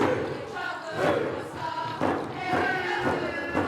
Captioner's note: singing; feet stomping